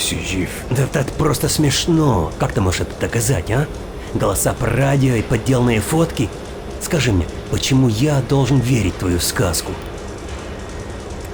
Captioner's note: in Russian